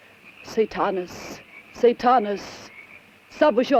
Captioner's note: speaks in foreign language